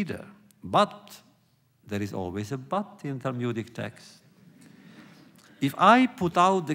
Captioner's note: laughter